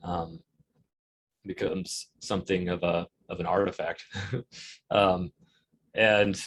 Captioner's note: chuckles